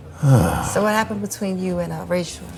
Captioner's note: Dr. Monroe sighing